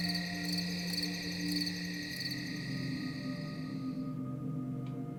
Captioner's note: crickets chirping